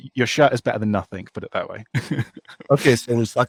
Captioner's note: laughs